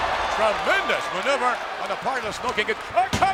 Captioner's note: audience cheers